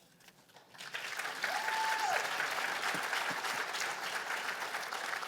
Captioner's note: cheers and applause